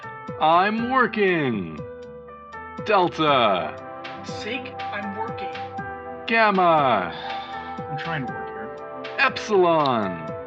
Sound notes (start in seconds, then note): 7.1 sigh